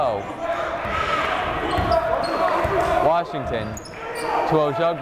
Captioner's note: yelling